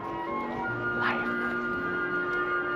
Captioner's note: whispers